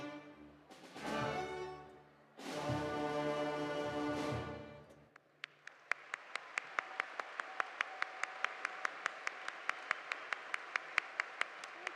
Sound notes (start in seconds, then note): 6.9 audience applauding